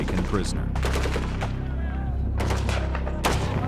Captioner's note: gunshots